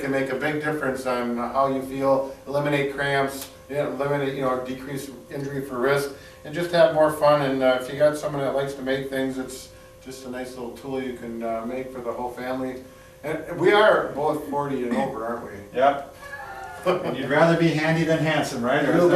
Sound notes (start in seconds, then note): 16.2 chuckles